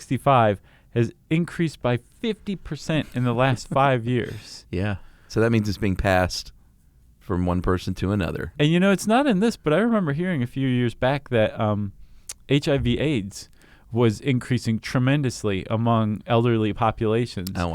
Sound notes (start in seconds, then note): 3.0 chuckles